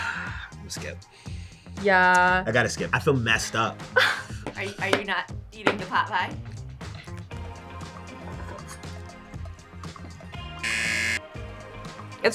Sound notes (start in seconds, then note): 3.9 laughs; 10.6 buzzer